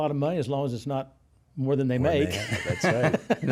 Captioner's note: laughs